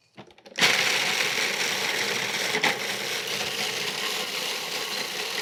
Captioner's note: food processor whirring